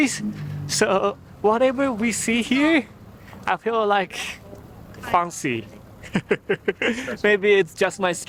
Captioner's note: chuckles